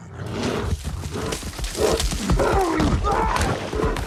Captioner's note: bear roaring